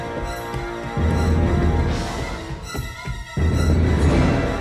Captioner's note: footsteps echo